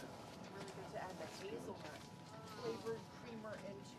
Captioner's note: indistinct chatter